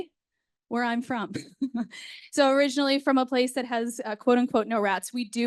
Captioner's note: laughs